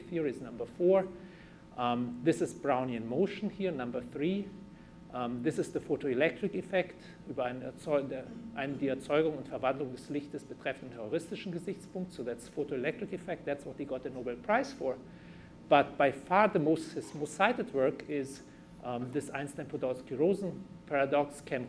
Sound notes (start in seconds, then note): 10.5 german